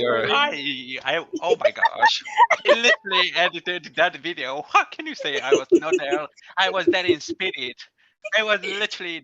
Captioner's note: out of control laughing